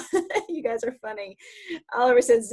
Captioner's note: laughs